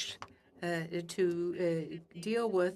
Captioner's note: speaking French